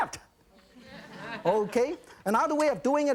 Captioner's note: audience laughs